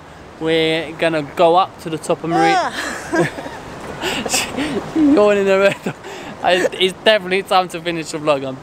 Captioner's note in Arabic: يضحك